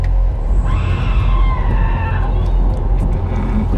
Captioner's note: screaming